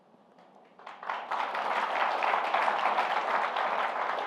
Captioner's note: applause